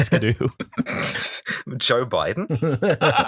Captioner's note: laughter